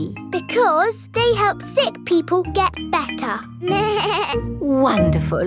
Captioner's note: bleats